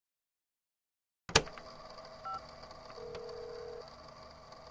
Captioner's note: phone dialing; tape recorder starts